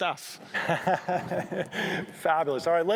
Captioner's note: laughs